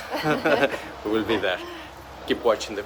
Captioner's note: laughing